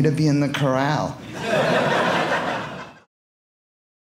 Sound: audience laughing

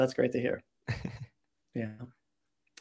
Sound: chuckling

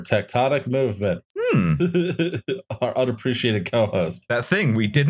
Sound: laughs

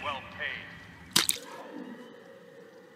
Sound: footstep

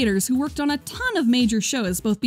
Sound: none

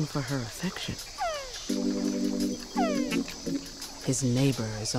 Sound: frog groaning

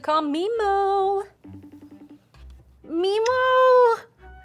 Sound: phone ringing

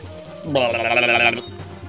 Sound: imitates zapping sound

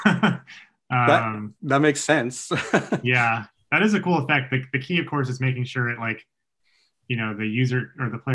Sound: chuckles

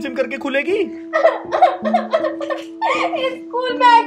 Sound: crying

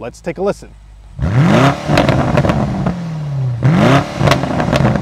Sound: car engine revving

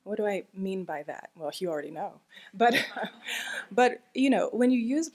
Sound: laughing

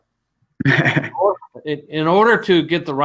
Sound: laughs

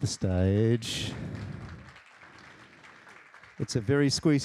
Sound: applause

